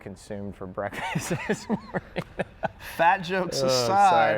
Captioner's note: laughs